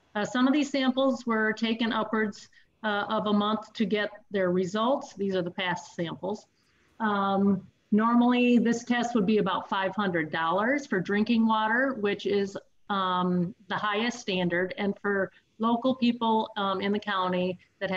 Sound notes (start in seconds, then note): none